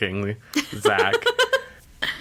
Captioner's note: laughs